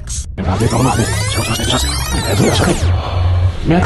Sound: rewind sound

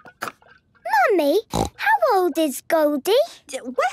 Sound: snorting

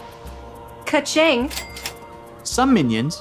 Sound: cash register dings

